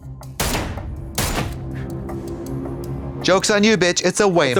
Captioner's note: gun firing